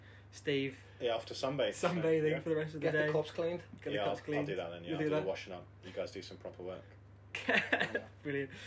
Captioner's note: laughter